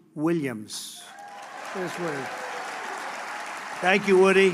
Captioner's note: applause